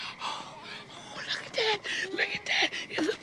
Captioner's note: gasping